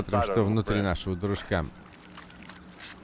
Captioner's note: squishing